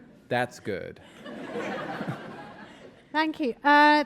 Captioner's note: audience laughing